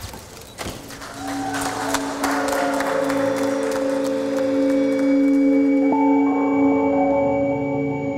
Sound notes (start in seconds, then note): 0.9 cheering